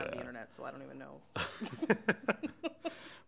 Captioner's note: chuckles